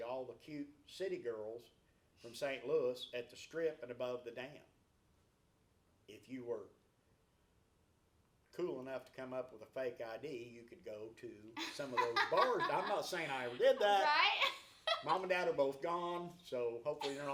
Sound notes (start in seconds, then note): 11.6 laughs